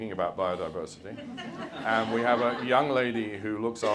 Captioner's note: audience laughs